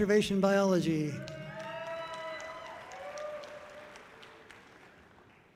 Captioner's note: audience cheering loudly